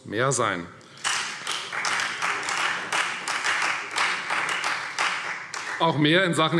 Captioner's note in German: Beifall Freie Demokraten